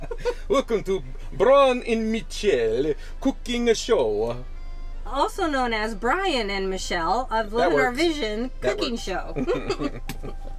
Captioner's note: talking with accent